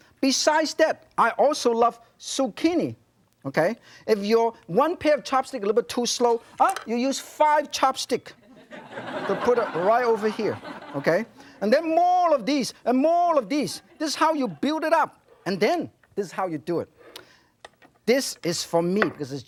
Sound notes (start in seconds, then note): 8.4 audience laughing